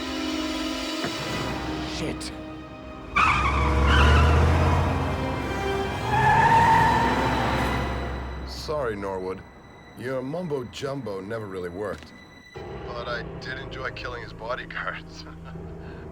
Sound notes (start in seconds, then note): 2.8 tires screech; 15.2 laughs